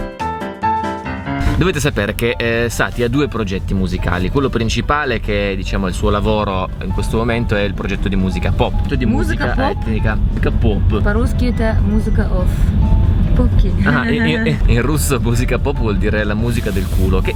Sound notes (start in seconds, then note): 11.1 Russian accent; 12.0 speaking in Russian